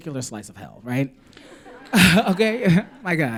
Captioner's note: laughter